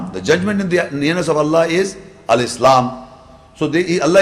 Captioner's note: Arabic